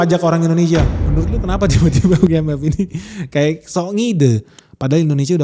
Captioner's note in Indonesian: tertawa